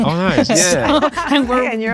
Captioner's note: group laughing